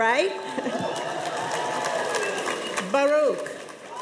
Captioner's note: cheers and applause